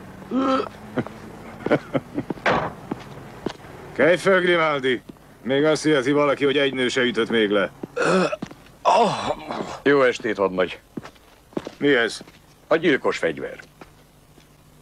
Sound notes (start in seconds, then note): 2.4 car door slams